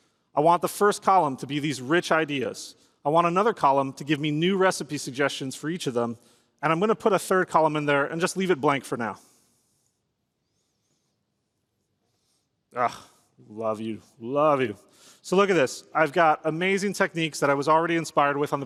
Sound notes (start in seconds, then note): 12.7 groans